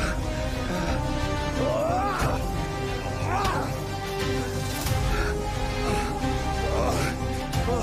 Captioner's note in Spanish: Jadeos y exclamaciones